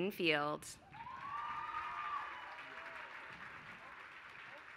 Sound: applause

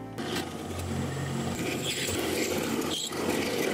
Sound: light piano music; drilling

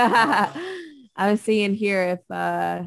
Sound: laughs

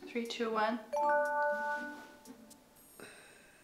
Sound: chimes

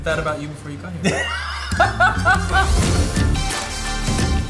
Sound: laughing; lively music

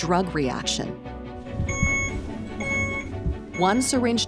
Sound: device beeping

